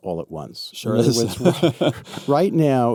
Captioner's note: laughs